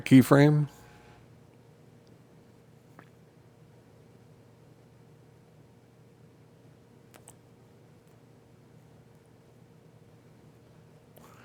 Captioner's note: silence